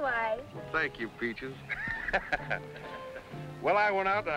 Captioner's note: laughs